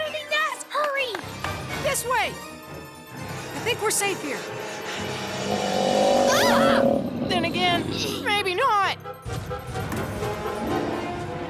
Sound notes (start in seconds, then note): 6.6 growling